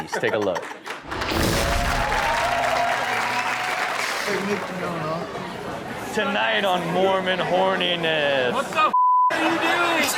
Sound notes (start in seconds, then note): 1.0 audience cheers; 9.9 laughs